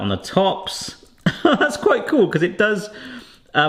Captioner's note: laughs